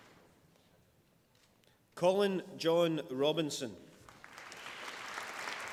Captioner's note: applause